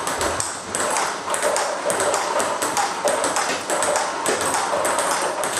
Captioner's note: ball ping pong hitting continues